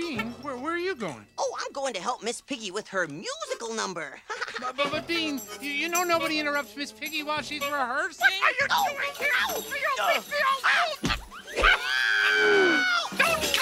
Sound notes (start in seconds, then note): 4.2 laughs; 4.9 stammers; 8.2 yells; 8.2 Bean exclaiming; 10.4 Ms. Piggy exclaiming; 11.5 Bean yelling